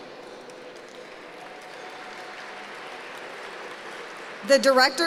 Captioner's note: applause